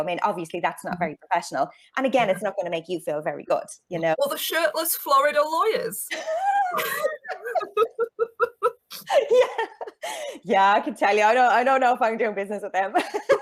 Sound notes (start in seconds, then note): 6.1 both laughing